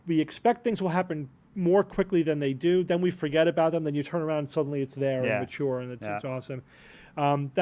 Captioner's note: none